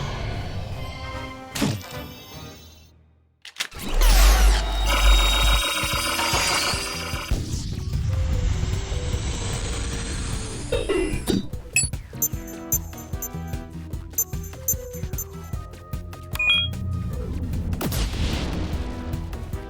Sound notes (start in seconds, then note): 11.7 beeping; 16.4 beeps